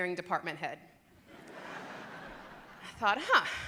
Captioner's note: loud laughter